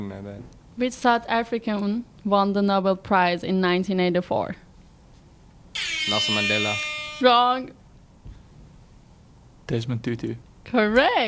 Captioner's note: horn Sound